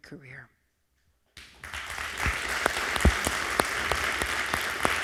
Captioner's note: crowd clapping